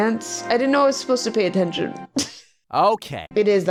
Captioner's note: laughs